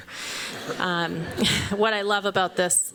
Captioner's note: laughter